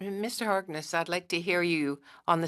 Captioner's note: speaking French